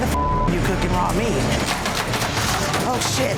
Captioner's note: beep